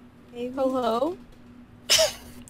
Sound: laughs

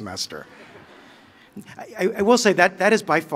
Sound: laughter

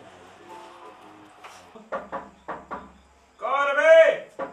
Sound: someone knocks the door

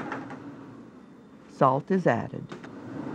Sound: voiceover

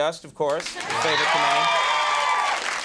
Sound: audience cheers

